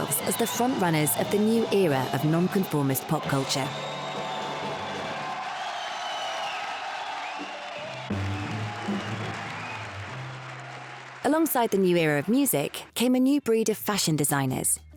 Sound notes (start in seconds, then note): 5.6 crowd cheers